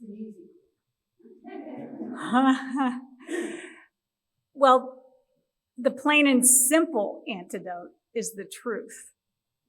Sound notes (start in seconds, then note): 3.2 laughs